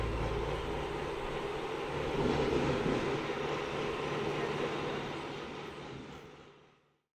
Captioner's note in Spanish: Sonido de tractor